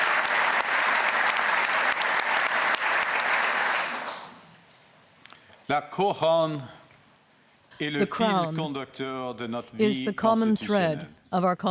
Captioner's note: applause